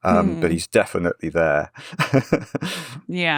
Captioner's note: laughs